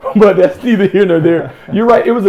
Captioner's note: laughs